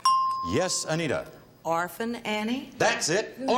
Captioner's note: ding